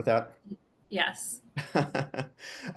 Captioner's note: laughs